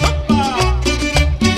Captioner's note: salsa Music; speaking in Spanish